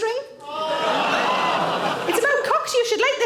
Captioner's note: audience gasp